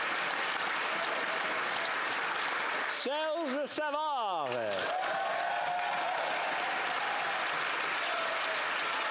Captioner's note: applause